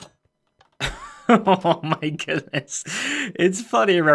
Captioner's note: laughing